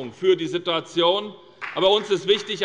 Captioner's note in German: Beifall bei Abgeordneten der SPD